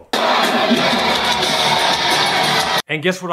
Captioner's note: crowd noise